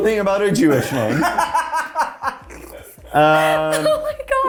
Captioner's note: laughing